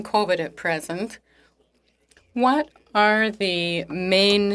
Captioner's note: speaking French